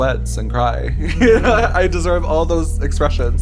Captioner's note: laughs